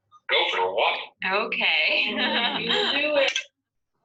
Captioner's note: laughs